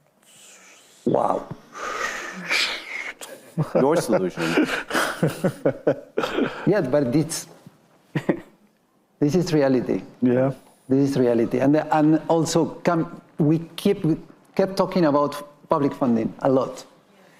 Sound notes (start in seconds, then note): 3.2 participants laughing; 4.9 laughing